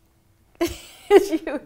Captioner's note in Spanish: risas